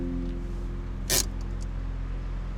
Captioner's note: handbrake ratchets